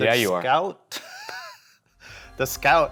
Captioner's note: laughs